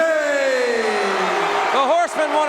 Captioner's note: audience cheering